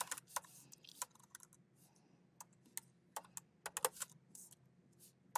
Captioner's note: keyboard clacking